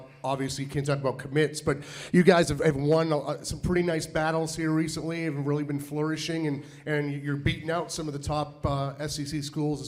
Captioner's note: none